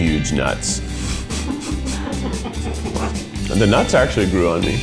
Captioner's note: crew laughing